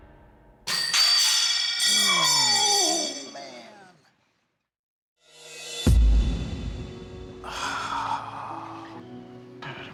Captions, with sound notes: [clattering] Oh, man! [sigh] Dude, I'm sorry.